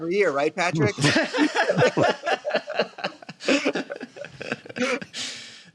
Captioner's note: laughter